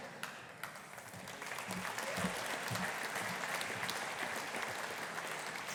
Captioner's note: audience applauding